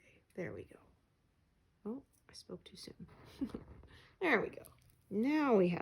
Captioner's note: laughs